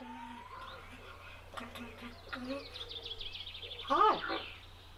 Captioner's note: Fable the Raven hums and speaks